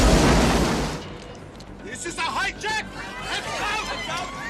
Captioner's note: passengers screaming